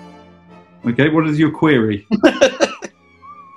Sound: laughing

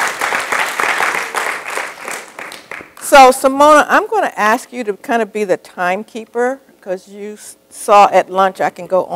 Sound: applause

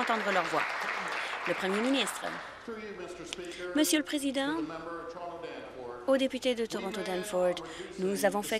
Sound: applause

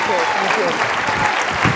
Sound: applause

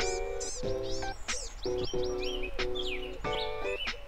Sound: upbeat music; birds chirp

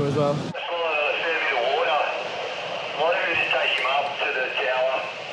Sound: voice over walkie talkie

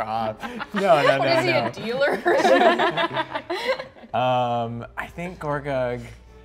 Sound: players laughing

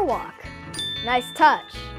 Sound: ding

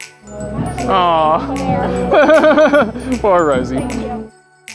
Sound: laughs

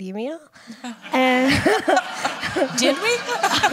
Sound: laughter

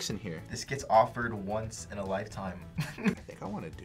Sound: laughs

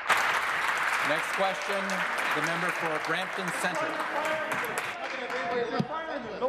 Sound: applause

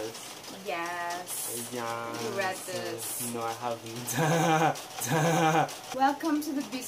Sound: chuckles

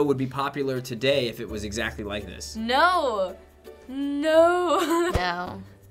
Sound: laughs

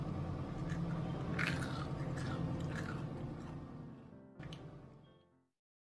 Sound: crunching

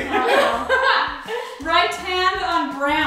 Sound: laughs

